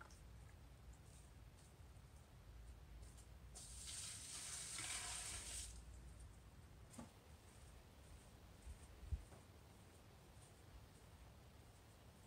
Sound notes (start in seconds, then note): 3.1 big water splash; 6.9 wind with light bird chirping